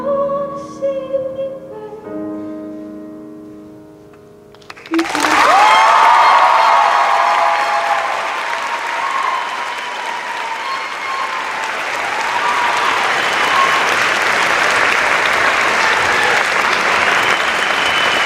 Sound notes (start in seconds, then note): 4.8 cheers and applause; 5.2 applause